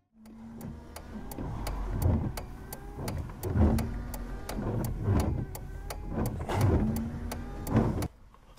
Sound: emergency blinker clicking

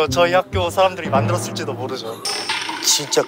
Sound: in a convincing tone

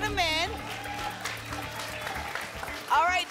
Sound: applause

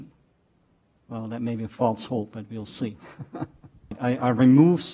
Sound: laughs

